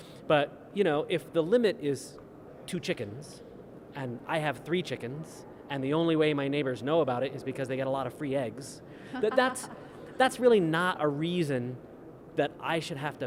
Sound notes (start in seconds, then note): 9.1 laughing